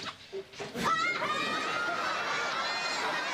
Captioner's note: kids laughing